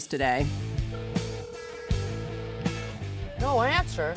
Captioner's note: ringing